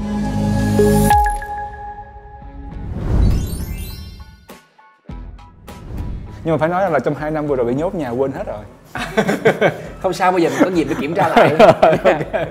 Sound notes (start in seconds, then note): 8.9 laugh